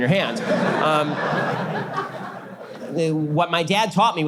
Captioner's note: audience laughter